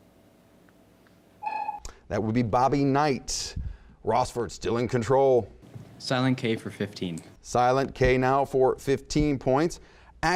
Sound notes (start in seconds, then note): 1.5 dinging